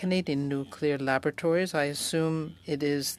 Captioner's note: speaking French